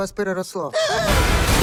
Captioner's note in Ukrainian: задихаючись